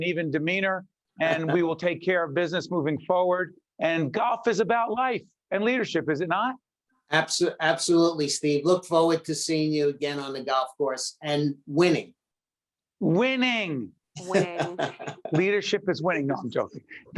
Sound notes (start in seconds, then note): 14.2 laughing